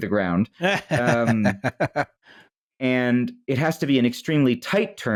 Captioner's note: laughs